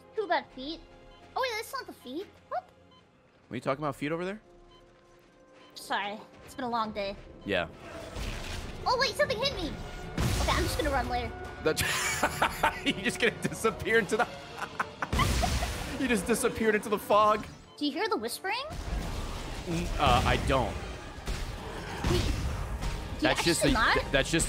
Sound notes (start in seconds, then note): 14.4 laughs